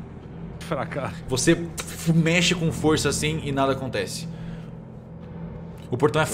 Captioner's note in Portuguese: barulho de portão balançando